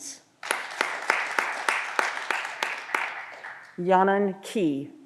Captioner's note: audience applause